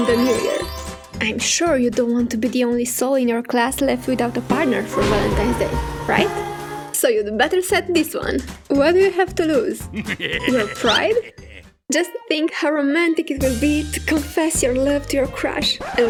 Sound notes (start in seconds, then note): 4.8 thunder; 6.3 sad music